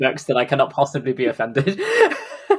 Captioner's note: laughs